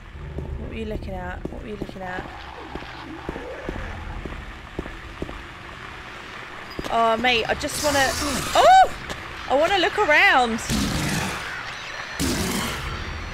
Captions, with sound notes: What were you looking at? What were you looking at? Awww mate I just wanna... [Spraying water noises] UH! I wanna look around!